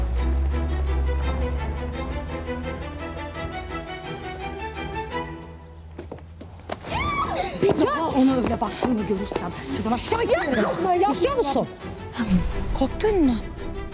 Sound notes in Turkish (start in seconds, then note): 6.8 Bağırıyor